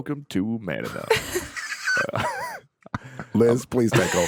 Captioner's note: all laughing